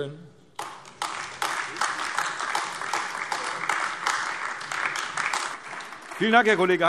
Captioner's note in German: Beifall AfD